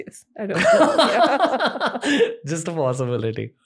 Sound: laughter

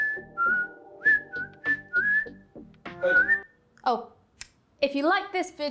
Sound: whistling

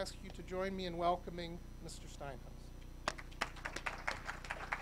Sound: applauding; audience applauding

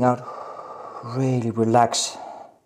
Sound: exhales

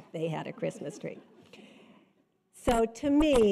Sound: audience chuckles

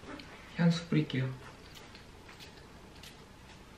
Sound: spraying

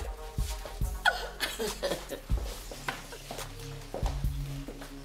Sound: Crystal chuckles

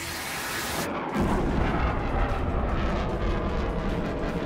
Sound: explosion

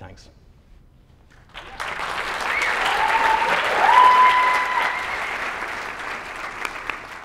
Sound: applause

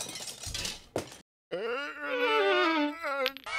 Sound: groaning

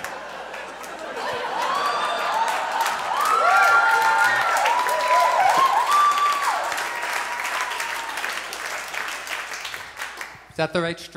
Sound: audience laughs; audience applauds

